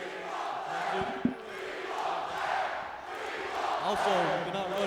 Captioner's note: crowd chanting